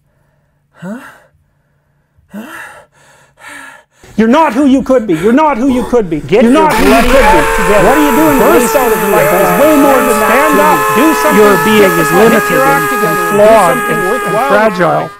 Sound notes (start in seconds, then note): 0.0 heavy breathing; 5.5 Screams in Jordan Peterson